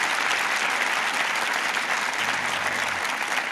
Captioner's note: applause